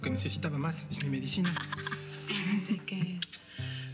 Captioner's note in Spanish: Risas